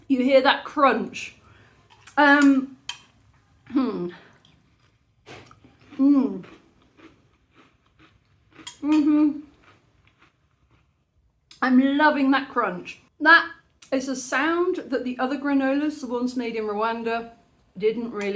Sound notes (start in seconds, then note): 6.5 crunching